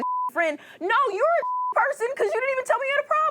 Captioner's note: beep